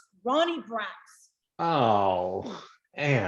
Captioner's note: groans